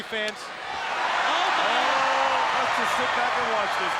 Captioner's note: crowd cheers